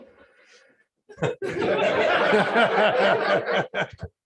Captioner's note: laughter and chatter